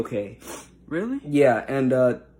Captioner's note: sniffles